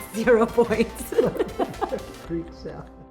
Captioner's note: laughing